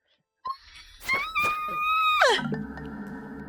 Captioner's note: screaming intensifies